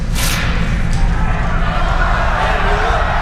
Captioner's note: cheering